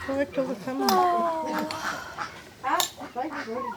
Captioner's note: sigh